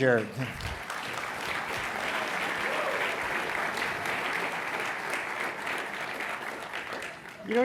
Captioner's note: applause